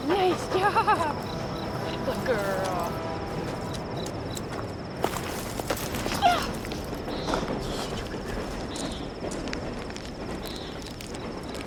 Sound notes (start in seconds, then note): 3.3 crickets chirping; 9.8 plastic rustling; 10.6 crickets chirping